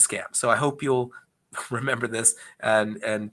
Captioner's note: chuckles